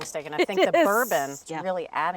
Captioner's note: laughing